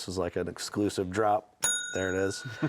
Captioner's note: bell sings